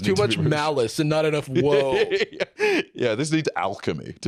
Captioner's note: laughing